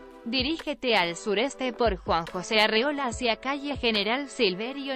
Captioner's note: speaking Spanish